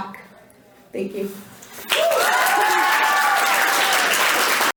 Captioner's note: audience applauds